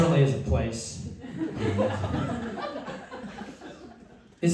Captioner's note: laughter